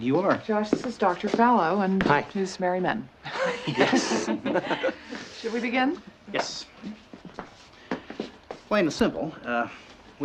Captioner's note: chuckling